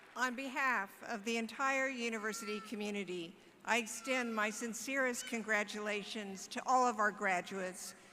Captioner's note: applause